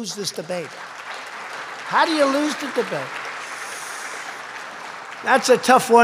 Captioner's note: applause